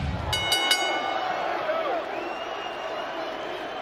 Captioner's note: bell rings